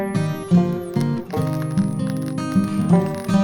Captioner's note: sizzling from the heat